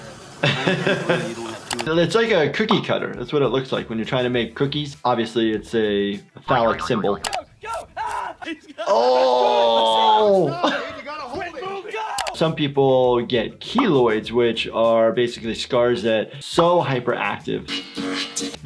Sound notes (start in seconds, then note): 0.2 doctor laughs; 8.8 Bam screams in pain